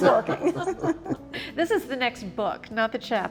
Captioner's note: all laughing